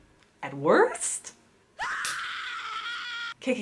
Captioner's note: scream noise